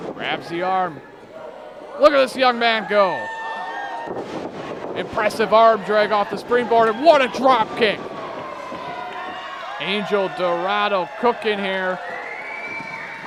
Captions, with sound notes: Grabs the arm. Look at this young man go! Impressive arm drag off the springboard, and what a drop kick! (crowd cheering) Angel Dorado cooking here.